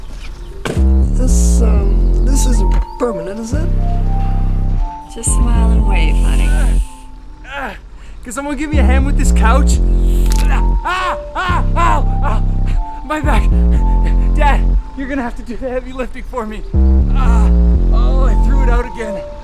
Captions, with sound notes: - This, um, this isn't permanent, is it? - Just smile and wave, honey. - (grunts) Can someone give me a hand with this couch? (snapping) (shouts) Ow! My back! Dad, you're gonna have to do the heavy lifting for me. Ah! Oh, I threw it out again.